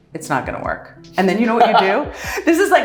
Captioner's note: laughing